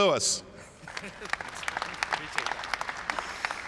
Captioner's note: applause